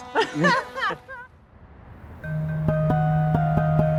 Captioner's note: both laugh; soft music